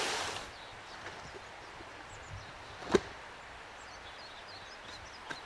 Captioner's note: chickadees singing